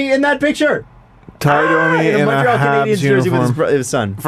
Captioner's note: disgusted